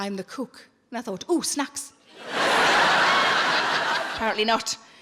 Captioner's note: audience laughs